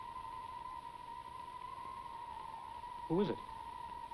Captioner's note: wind whispering